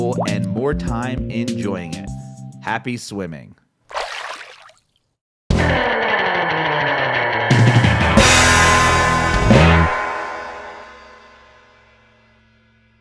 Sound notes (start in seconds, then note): 3.9 water splashes; 5.5 upbeat old time rock guitar music